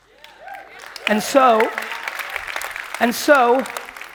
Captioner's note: audience clapping